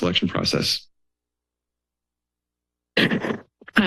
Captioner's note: silence